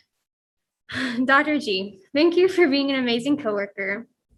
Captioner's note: exhales loudly